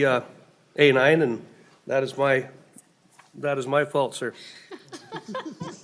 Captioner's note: laughing